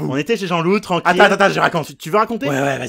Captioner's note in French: retour de l'accent du sud; accent du sud